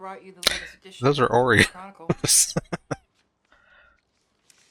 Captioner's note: laughing